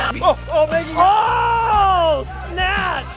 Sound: assorted laughter; cheers

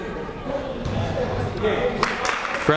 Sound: clapping

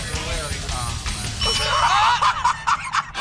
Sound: ding; laughing

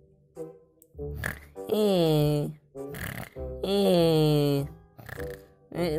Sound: snoring

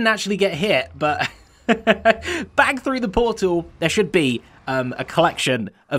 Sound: chuckles

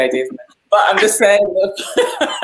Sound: laughs

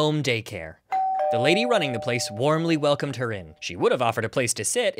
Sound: doorbell

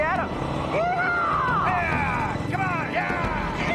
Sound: men yelling

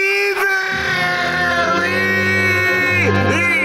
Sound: screaming

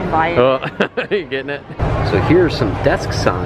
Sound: laughs

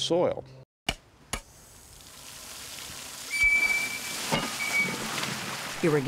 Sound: rush of water, squeaking

